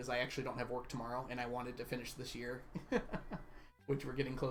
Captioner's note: laughs